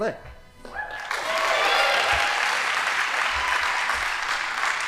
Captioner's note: audience applauding